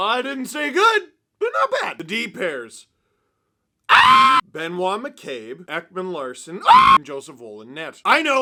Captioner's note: various screaming